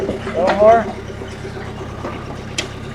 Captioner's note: machine whirring